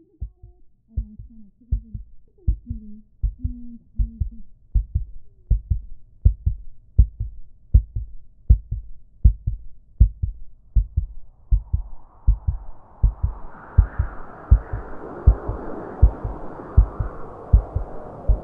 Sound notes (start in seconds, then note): 2.4 heart Beating; 10.7 wind sounds; 15.4 heart Beating Loudly